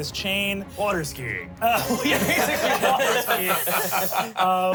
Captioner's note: everyone laughs